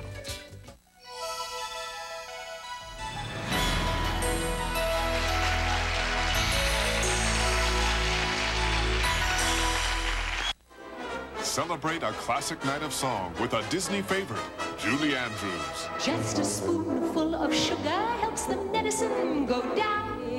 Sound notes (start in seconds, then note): 4.0 applause; 10.7 orchestral intro